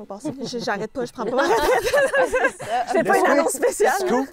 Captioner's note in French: rires